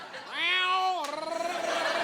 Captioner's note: meowing